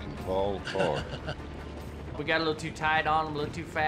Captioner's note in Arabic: صديق يضحك